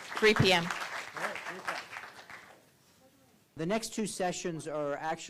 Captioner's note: applause